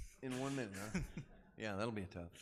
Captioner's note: laughing